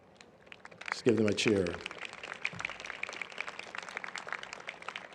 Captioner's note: applause